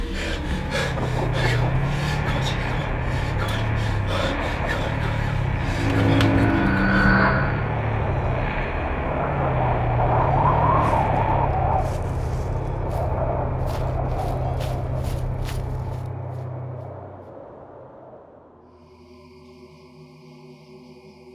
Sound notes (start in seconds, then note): 7.1 wind blows harshly